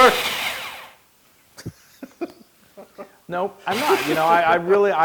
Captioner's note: laugh